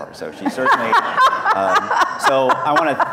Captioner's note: laughing